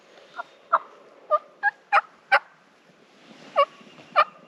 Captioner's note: turkeys gobbling; turkey call